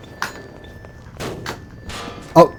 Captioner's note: romanian clank